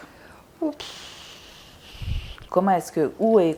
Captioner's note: sighing